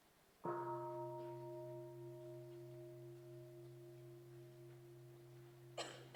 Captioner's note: three sounds of the bell